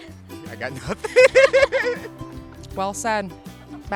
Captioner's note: laughs